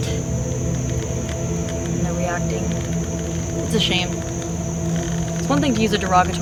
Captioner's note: wood creaking